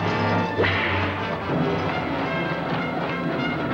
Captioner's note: whip cracks